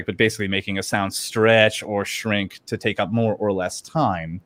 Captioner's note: none